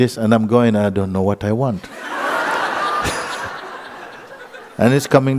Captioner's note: laughter